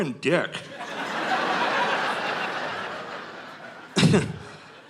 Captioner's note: audience laughing